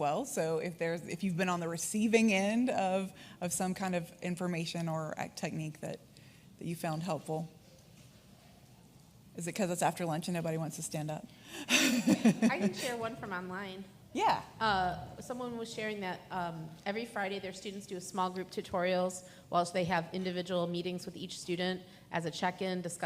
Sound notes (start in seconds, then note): 11.7 laughs